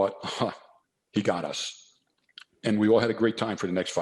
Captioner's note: scoffs